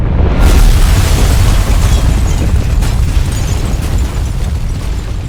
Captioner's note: sounds of shattering